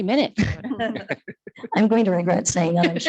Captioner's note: attendees laughing